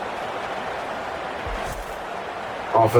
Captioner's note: crowd Noises